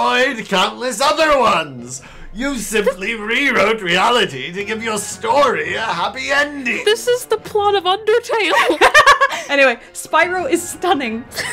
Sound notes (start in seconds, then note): 8.5 laughter; 11.3 laughter